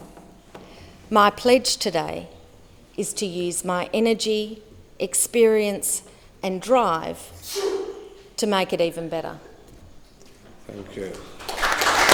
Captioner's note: applause